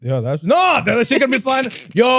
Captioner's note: speaking In Foreign Language